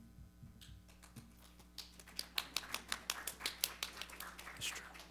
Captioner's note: audience applauding